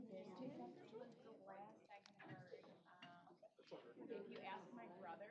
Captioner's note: indistinct chatter